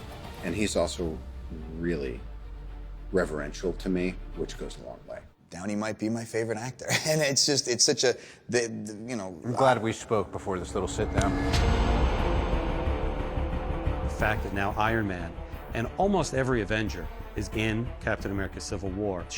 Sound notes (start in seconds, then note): 6.8 chuckles; 8.8 stammers